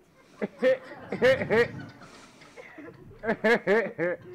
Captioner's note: audience laughing